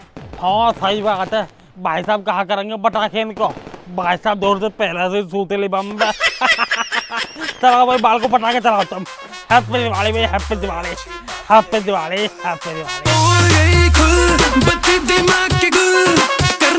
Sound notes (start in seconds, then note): 5.8 laughing